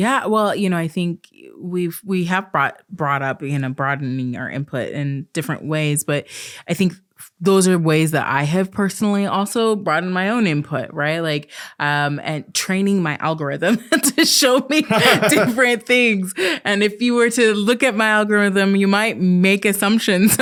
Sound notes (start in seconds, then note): 14.8 laughs